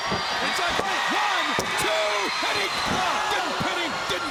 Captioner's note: hand pounding